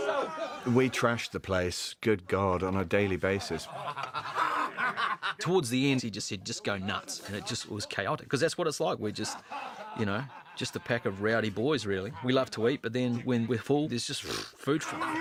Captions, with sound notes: We trashed the place, good God, on a daily basis. [ALL LAUGHING] Towards the end, he said, "Just go nuts," and it was chaotic. Because that's what it's like. We're just, you know... ...just a pack of rowdy boys, really. We love to eat, but then when we're full, it's just food ﬁght.